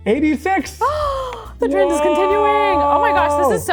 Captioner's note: gasping